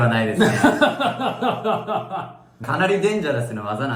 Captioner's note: laughs